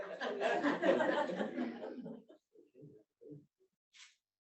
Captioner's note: audience laughs